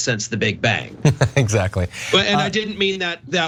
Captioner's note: laugh